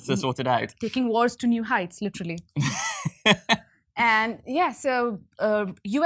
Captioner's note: laughs